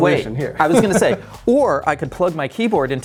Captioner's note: laughing